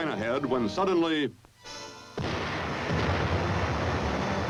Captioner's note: explosion